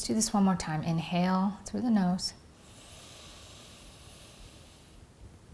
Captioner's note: breathes deeply